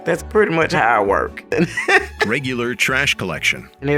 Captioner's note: laughs